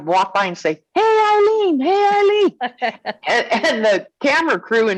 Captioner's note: laughing